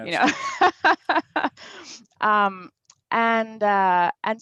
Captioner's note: laughs